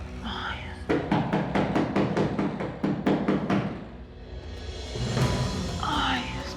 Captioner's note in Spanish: toques en la puerta